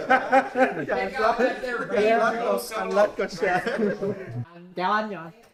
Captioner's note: laughing; speaking foreign language